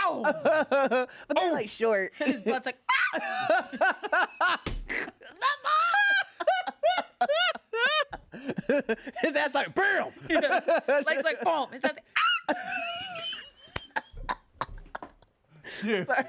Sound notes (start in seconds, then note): 2.9 screams; 4.9 everyone laughs; 12.2 everyone laughs; 12.3 screeches; 15.6 laughs